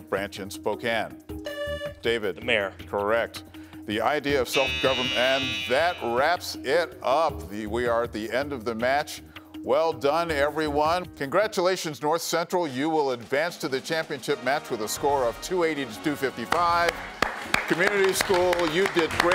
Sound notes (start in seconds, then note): 2.7 buzzer beeps; 4.5 alarm buzzes; 18.3 audience applauds